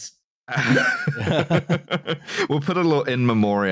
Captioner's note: laughter